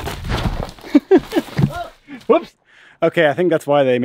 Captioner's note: laughs